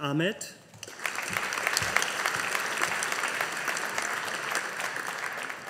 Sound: audience applauding

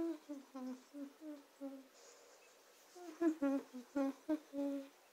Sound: Cherry Humming

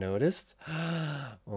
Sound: gasps

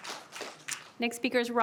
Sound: applause

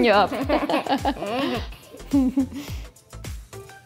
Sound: both laughs

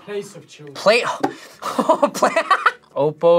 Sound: laughs

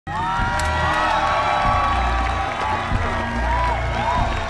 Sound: applause

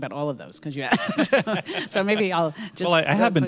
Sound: laughs

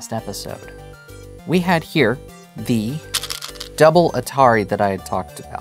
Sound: stones rattling

